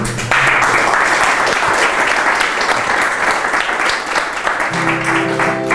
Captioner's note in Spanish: aplausos